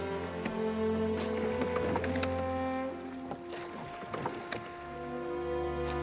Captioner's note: oars splash in water